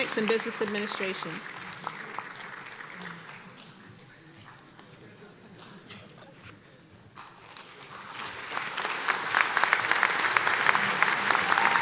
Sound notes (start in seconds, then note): 1.6 applause; 7.7 applause and cheering